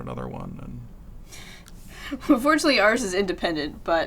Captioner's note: laughs